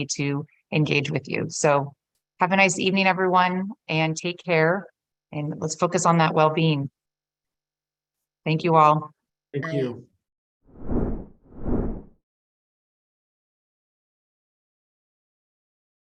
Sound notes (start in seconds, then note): 10.7 graphic swooshing